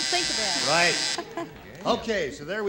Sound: buzzer

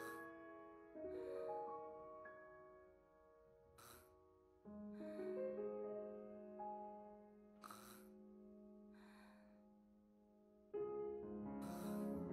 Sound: sighs

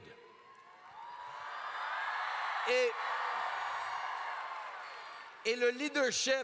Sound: crowd cheers

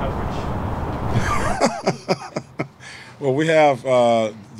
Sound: laughing

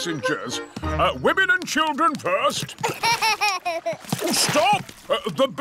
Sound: laughs

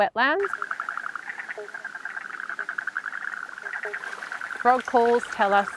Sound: frog calls

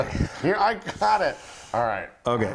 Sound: laugh

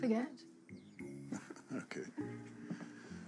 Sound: chuckles

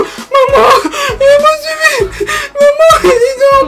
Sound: crying; crying

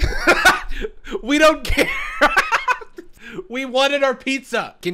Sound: laughs

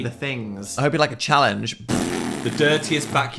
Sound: blows raspberry

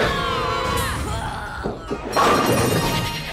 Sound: all scream; groans

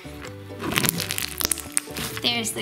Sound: slime crunching

